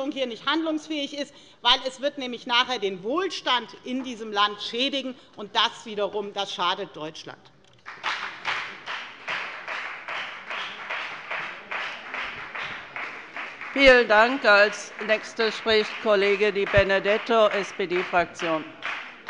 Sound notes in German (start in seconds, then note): 7.8 Beifall bei der FDP